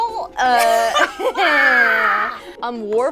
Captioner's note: all laugh